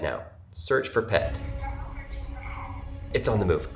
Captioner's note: vacuum